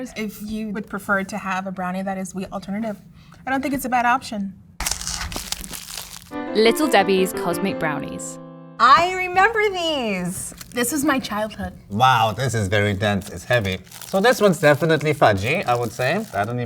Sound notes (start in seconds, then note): 4.8 cardboard tearing; 4.8 paper crinkling